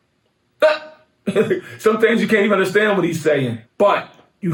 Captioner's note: laughs